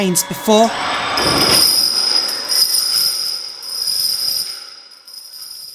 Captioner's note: chains drag on floor as robot arm moves